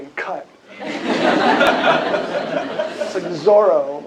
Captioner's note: laughter